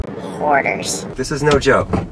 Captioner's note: electronic Voice